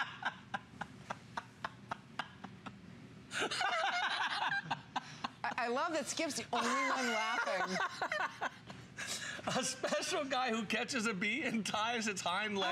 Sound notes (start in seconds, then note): 0.0 laughter